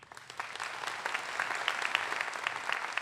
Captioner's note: applause